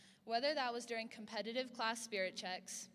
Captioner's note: none